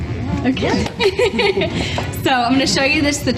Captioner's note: laughs